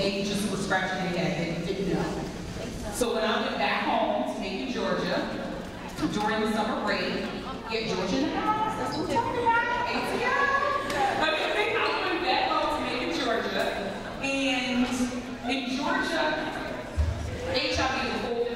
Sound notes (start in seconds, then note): 11.5 laughs